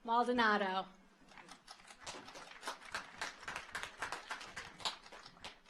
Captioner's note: audience applauds